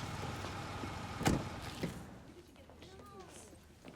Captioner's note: car door bangs